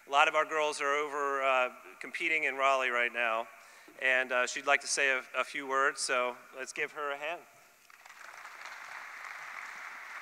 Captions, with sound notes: A lot of our girls are over competing in Raleigh right now. And she'd like to say a few words. So let's give her a hand. (applause)